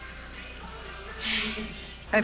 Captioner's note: laughing